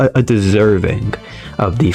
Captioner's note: inhales Oxygen